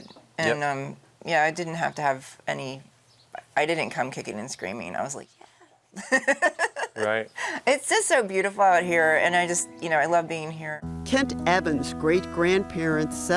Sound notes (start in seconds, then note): 6.0 laughing